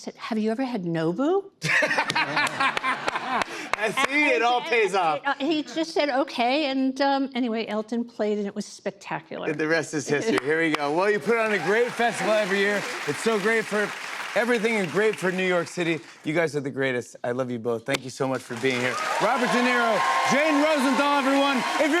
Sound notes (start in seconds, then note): 1.6 laughter